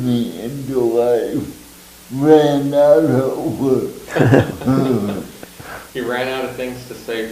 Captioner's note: all laugh